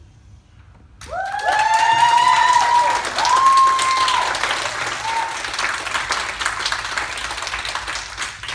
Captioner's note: cheering from public gallery